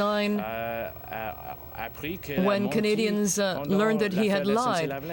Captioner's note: speaking french